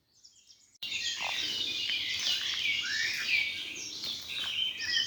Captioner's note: birds singing